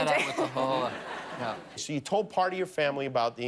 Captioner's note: laughter